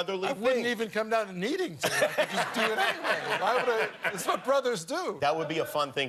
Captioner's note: laughter